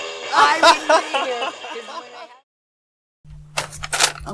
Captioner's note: man laughing